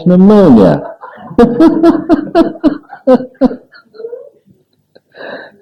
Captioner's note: laughs